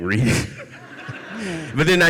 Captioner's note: audience laughs